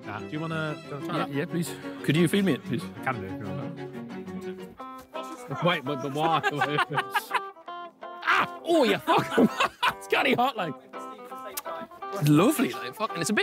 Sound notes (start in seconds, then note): 5.2 laughing; 5.3 comedic music